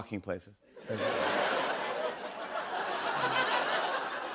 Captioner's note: laughter